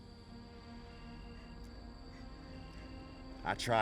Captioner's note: insects chirping